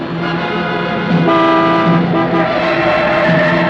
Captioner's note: horn Honking